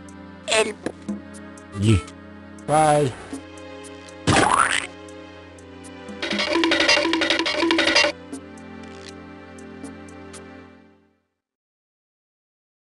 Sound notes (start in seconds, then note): 4.2 splat!